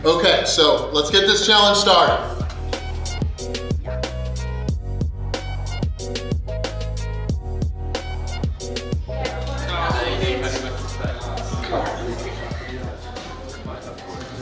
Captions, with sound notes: - Okay, so let's get this challenge started! (jazz music) (background talking)